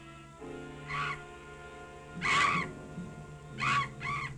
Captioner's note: bat shrieking